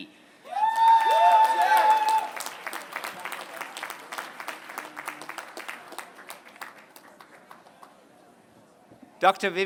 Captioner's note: applause